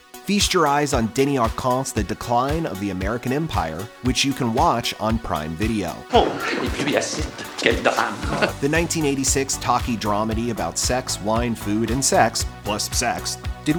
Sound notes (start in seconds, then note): 6.2 speaking french